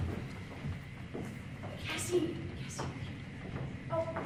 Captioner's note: whispering